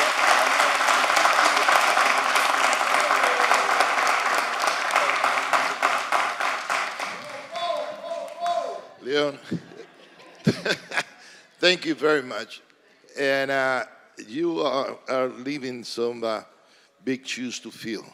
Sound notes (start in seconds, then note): 4.6 applause